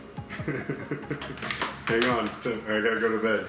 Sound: laughing

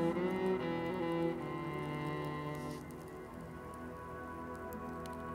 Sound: flame crackling

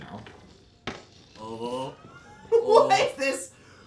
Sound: more disgusted groaning

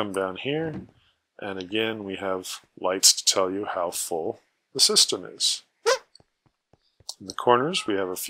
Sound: squeak

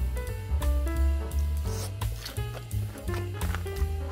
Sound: sound of chewing fried eggplant

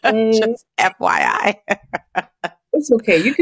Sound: laughs

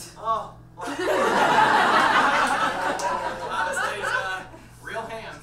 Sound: audience laughs

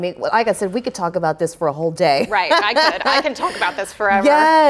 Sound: laughs

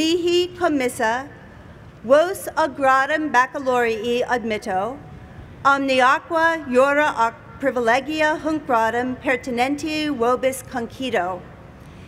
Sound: speaking latin

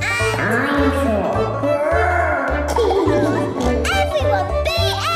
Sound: laughing

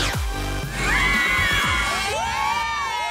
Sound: screaming

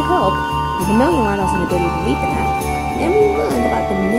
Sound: none

